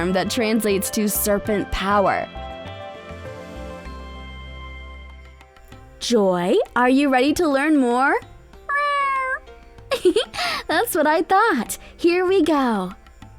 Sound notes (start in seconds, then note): 2.1 soft music; 8.6 meow; 9.9 chuckles